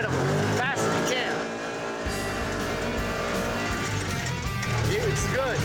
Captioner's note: motor revving